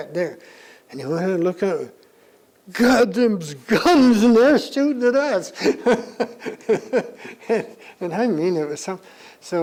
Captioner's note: laughs